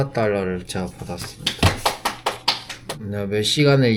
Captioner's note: applause~~~